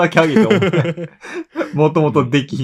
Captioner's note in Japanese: 笑い